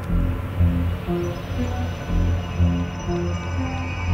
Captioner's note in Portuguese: barulho de carro